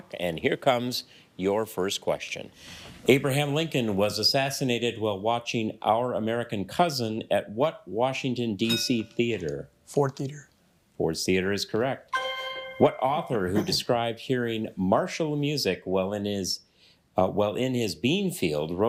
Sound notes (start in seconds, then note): 12.1 bell dings